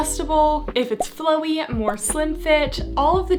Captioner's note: graphics beeping; graphics beeping